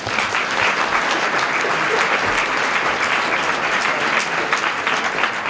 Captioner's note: applause